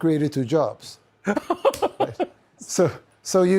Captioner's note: tucker laughs